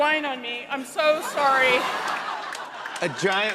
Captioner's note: laughter